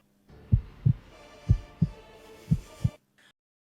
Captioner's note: heartbeat